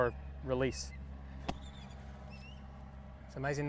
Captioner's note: golf club thwacking